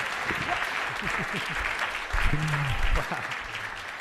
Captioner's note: clapping; laughing